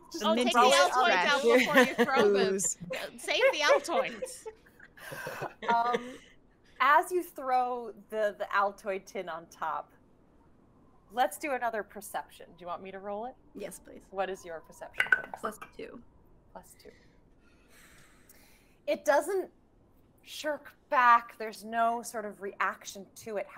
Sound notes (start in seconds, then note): 5.0 group laughing; 15.0 dice rolling